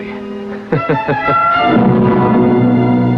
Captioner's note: chuckling